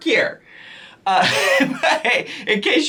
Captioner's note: laughs